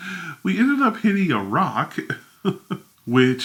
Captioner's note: laughs